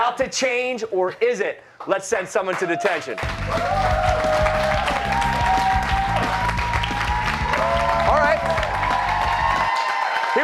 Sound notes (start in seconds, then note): 2.5 cheers and applause